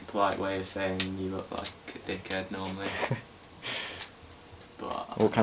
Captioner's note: Arnold chuckles